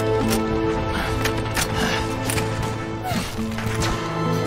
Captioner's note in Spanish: Ruidos del arma